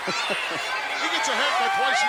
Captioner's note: laughs